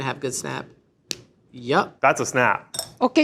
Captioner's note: chocolate snaps